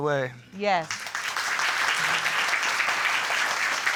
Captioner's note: audience applauding